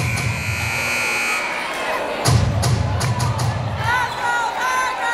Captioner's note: buzzer blaring